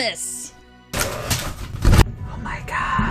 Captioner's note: paper rustling